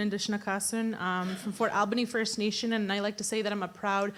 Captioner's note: in English